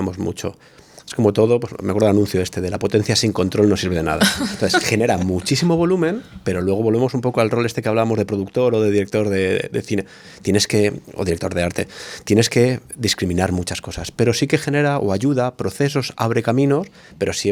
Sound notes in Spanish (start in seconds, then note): 4.2 risas